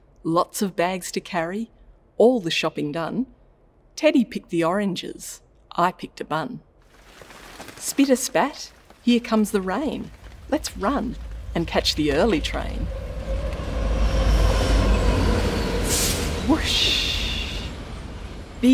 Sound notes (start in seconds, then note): 6.8 rain splashing; 13.9 train clanking